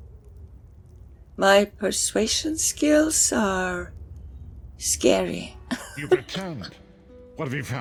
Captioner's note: laughs